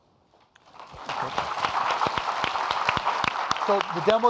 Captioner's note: audience applauding